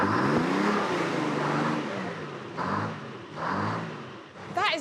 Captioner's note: engine rumbling